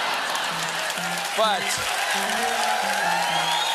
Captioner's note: applause; laughter